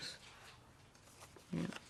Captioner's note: whispering